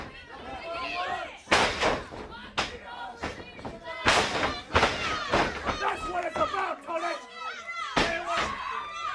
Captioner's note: crowd chatter